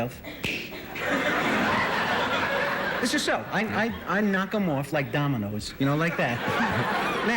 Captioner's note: laughter